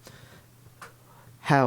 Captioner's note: faint tap in the background